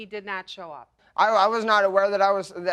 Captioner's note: stammering